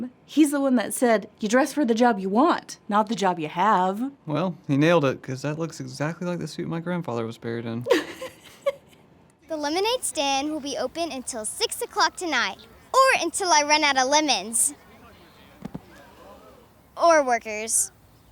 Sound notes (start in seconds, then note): 7.8 Hannah laughs; 15.6 body thumps